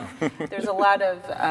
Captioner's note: laugh